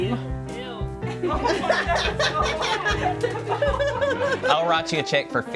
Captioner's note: crew laughs